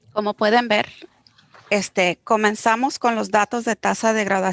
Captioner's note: speaking foreign language